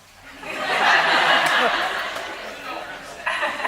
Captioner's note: laughing